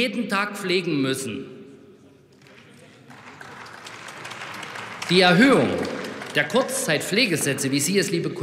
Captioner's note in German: Beifall bei der AfD